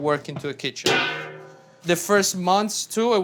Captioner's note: metal clanging